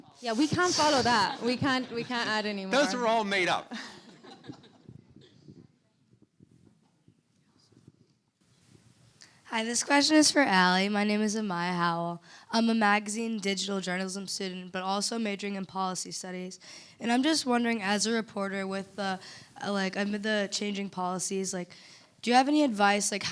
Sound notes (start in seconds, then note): 2.7 audience and panelists laughing